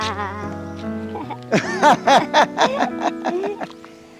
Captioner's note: both laughing